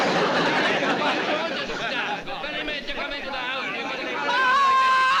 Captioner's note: arguing